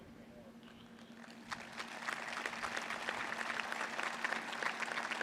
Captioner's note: applause